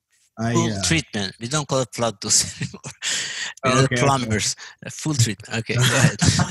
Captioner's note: laugh